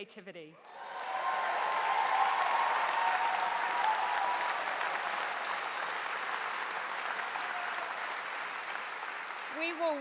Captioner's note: applause